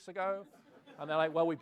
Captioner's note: laughs